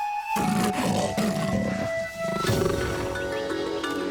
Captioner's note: growling